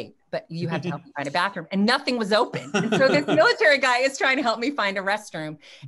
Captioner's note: laughs